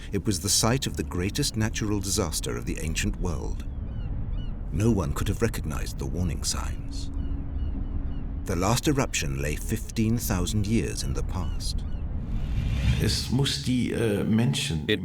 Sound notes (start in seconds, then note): 3.6 gulls calling; 12.9 speaking German